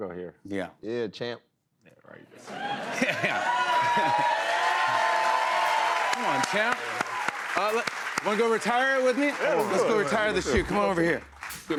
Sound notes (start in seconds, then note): 3.5 cheers and applause